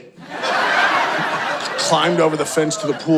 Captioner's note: audience laughing